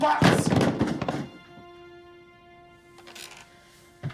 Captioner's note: box thumps